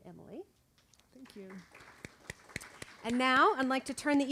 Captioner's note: audience applauding